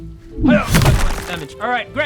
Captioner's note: smack!